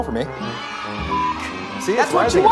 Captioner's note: children cheering; beep